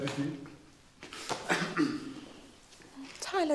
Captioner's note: coughs; hand thudding